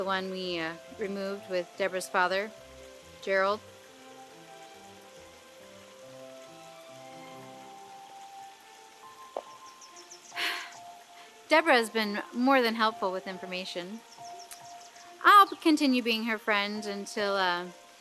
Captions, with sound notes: we removed with Debra's father, Gerald. [classical music plays] [sighs] Debra has been more than helpful with information. I'll continue being her friend until--